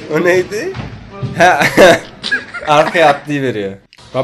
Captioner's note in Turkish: Gülme